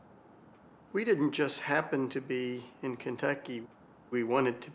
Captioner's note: voiceover